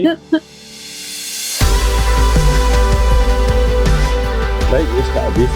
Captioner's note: laughs; upbeat music